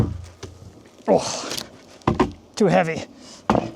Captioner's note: grunting